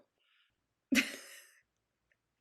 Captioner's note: chuckles